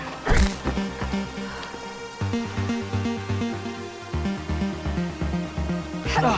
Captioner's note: action music; Riley grunting